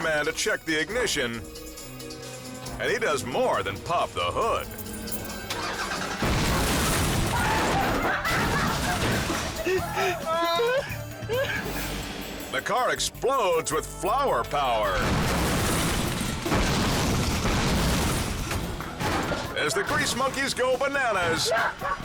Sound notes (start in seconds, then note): 5.0 ignition rattles; 5.5 car explodes; 7.4 people laughing; 14.9 car explodes